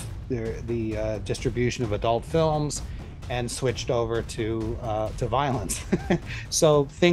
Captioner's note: laughs